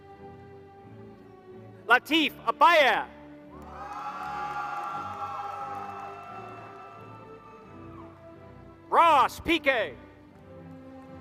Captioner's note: applause